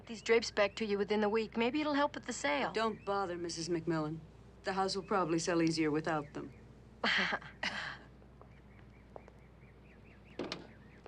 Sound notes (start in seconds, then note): 7.4 tittering